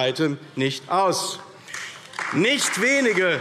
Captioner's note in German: Beifall AfD